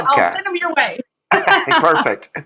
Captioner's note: laugh